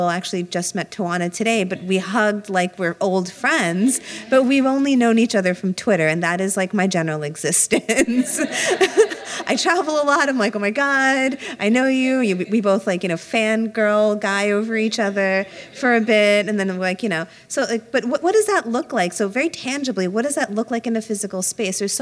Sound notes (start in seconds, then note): 7.8 laughter